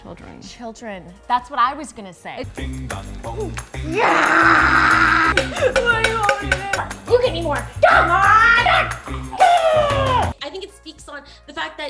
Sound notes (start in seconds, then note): 3.8 growling; 5.4 crying